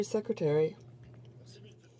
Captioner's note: speaking French